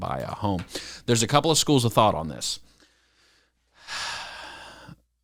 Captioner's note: sighs